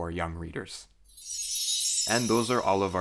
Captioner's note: chime